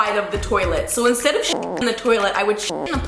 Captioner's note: growling